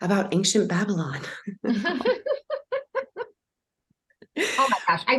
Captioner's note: both laughing